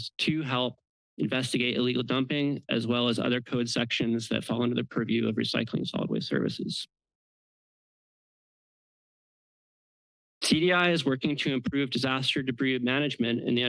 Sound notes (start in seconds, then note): 6.9 pause